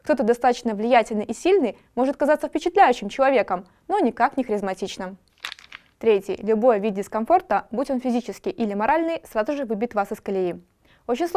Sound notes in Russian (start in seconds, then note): 5.3 звук перелистывания